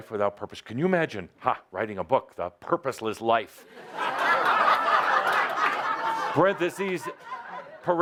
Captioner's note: laughter